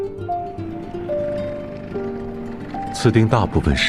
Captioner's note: sounds of a motorcycle